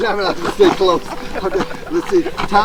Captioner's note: laughing